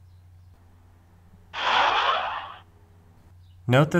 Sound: airplane sound

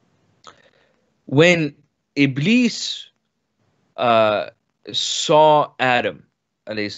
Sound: speaks in foreign language

